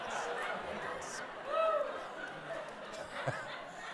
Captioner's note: laughter